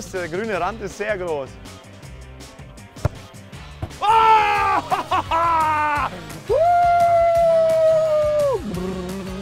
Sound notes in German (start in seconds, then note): 4.0 Jubel